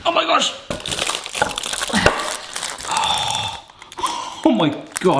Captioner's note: foil crackling